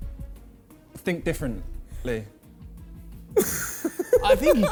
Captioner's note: Vik laughs